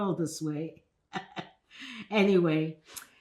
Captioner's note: laughing